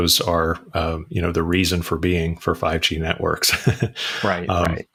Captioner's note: laughs